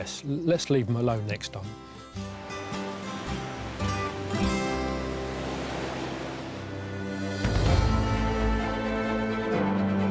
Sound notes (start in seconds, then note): 2.5 upbeat music; 3.9 waves crashing; 7.2 dramatic music